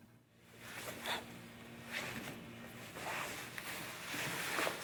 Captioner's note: soft shuffling